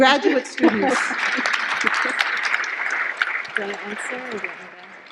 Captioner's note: audience applauding